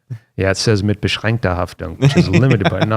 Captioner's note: foreign language